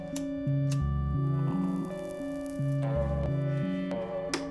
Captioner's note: lighter clicks